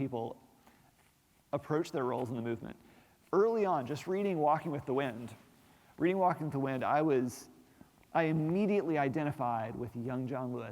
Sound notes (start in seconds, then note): none